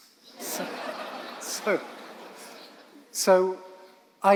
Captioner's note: audience laughing